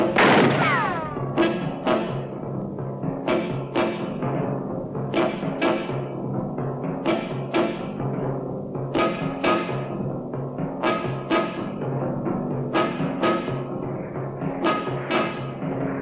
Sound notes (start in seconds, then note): 0.0 gun firing; 0.1 foreboding music continues